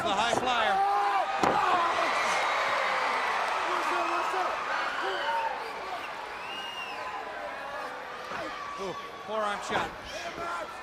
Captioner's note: crowd cheering